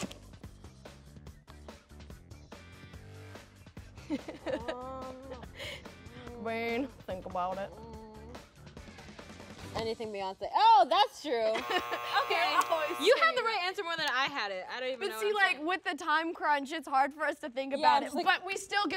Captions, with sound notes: [laughing] Um... Bean, think about it. - Anything Beyonce-- Oh, that's true, OK! - You're always singing it! You have the right answer more than I had it, I don't even know... But see like, with the time crunch, it's hard for us to think about it,